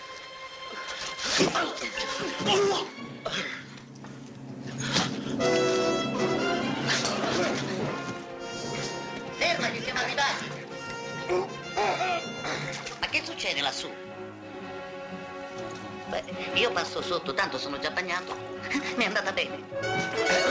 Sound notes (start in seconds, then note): 12.7 laughing